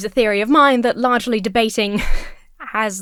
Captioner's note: exhales sharply